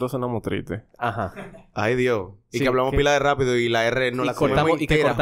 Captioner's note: laughs